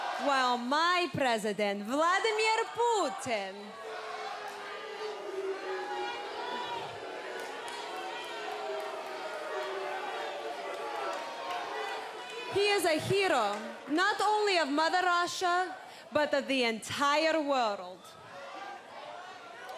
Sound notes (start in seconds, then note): 13.6 cheers & boos